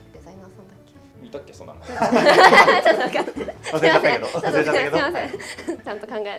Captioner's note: laughs